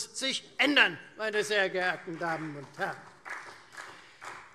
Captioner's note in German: Beifall Freie Demokraten